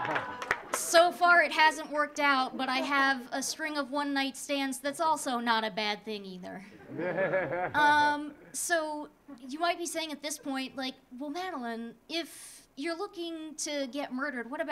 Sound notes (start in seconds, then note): 0.0 audience clapping; 0.0 audience laughing; 6.8 audience laughing